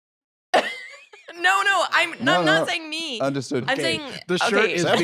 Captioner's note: laughs